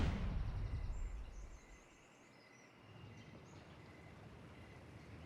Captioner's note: bird chirp